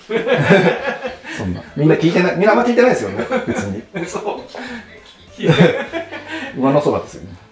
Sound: laughing

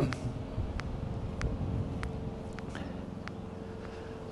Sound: mower groaning

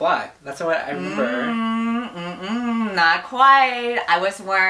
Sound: humming

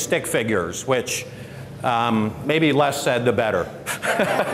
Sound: laughter

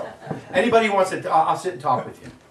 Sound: audience laughing

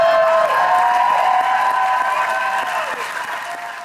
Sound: cheers and applause

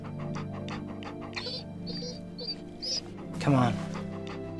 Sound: dog whines

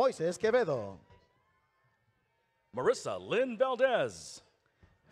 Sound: none

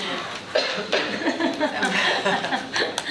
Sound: laughing; coughing

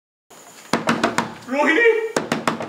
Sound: knocking on the door

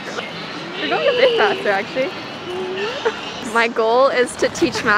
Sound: mumbling

